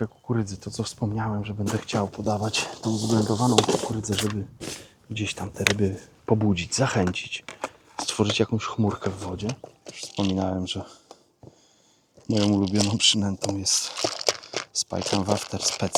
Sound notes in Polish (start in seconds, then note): 5.1 parsknięcie